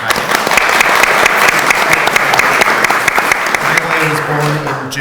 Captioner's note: audience applauds